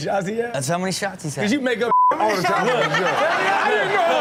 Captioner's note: beep